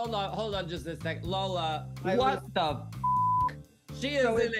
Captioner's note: beep